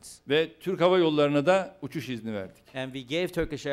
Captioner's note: non-english speech